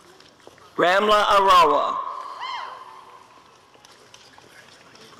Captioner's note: audience cheering